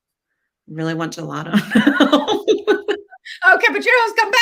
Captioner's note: laughs